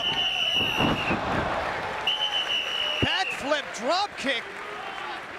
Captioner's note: applause